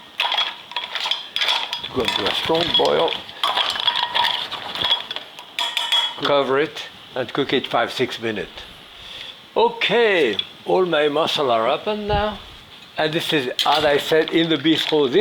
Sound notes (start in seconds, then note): 1.5 utensil scraping; 5.3 utensil tapping